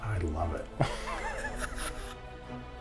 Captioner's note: laughing